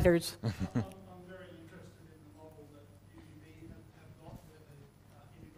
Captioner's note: laugh